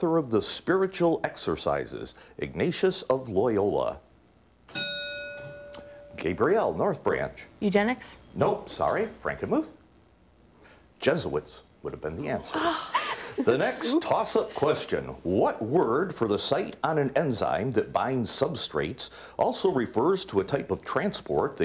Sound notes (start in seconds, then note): 4.7 ding; 12.5 laughing